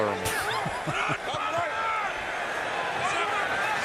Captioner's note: laughs